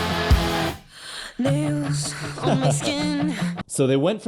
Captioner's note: laughs